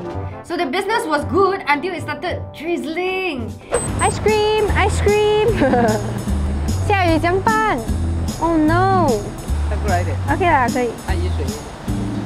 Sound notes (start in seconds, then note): 5.4 laughs